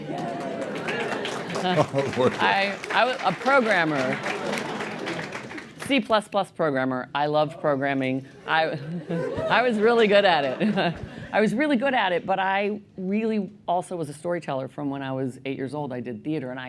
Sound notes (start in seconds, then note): 0.0 applause; 8.7 cheering